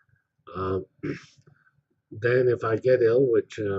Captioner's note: cough